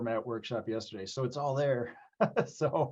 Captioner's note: laughs